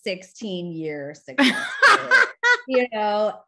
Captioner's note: chuckles